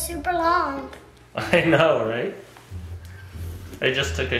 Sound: laughing

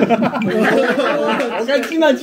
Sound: laughing

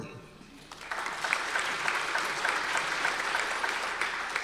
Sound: audience applause

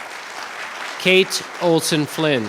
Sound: clapping

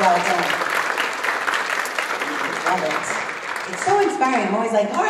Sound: applause

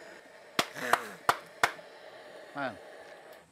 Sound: clapping

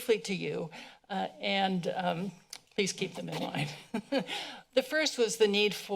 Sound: laughs

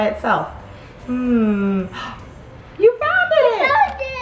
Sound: gasps

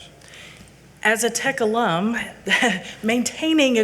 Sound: chuckles

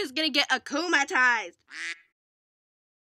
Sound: quack

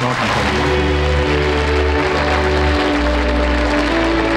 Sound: applause

